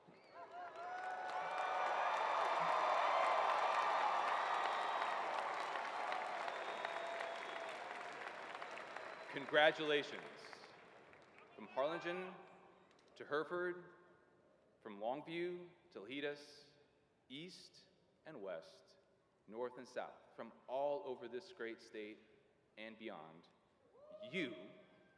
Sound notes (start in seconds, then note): 3.8 cheers and applause